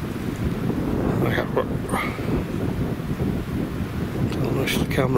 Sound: stutters

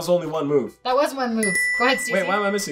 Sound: dinging

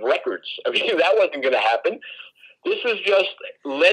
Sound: laughs

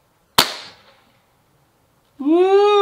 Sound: gun cocks; gun fires

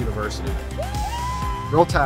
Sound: students cheering

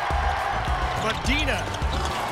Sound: cheering

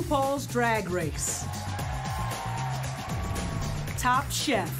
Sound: cheering

